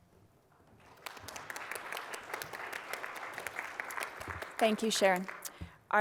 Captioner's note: applause